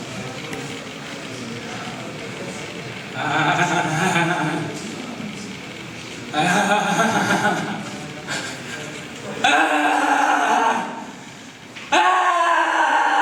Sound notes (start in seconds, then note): 3.4 goat-like laughing; 9.9 screaming